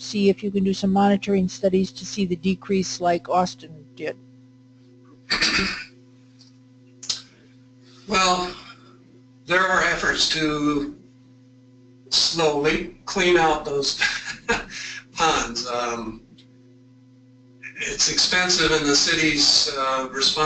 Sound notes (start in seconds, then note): 16.8 laugh